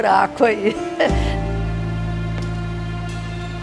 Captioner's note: laughter